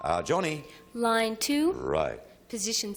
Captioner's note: ping